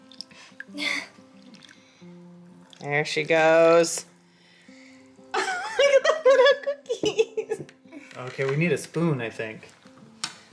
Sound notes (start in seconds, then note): 0.8 laughs; 5.3 laughs